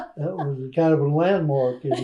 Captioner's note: laughs